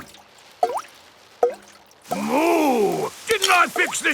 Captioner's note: water dripping